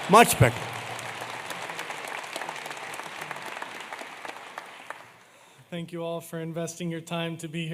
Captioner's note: applause